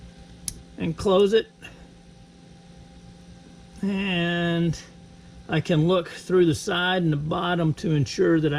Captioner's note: click